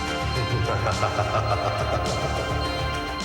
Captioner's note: laughs